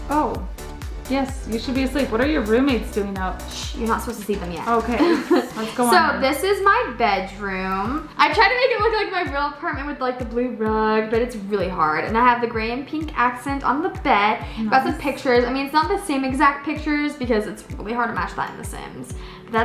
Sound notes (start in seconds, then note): 4.9 laughs